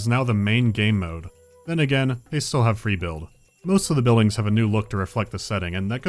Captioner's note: none